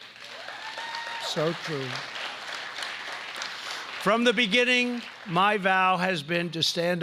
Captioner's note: applause